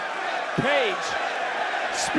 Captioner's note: crowd chants "page"